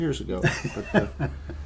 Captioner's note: laughter